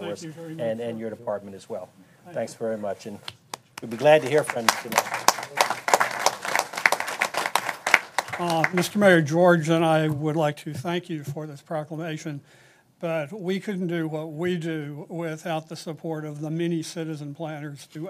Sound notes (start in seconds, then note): 9.5 applause